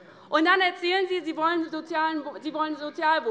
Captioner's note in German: none